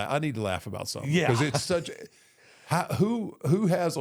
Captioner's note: chuckles